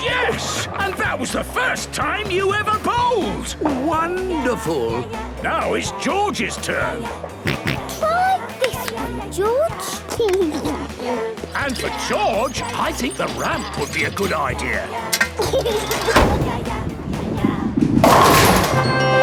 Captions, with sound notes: - Yes, and that was the first time you ever bowled! - Wonderful! - Now it's George's turn. (George snorts) - Try this one, George. (giggles) - And for George, I think the ramp would be a good idea. (giggles)